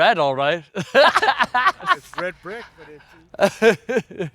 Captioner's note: laughs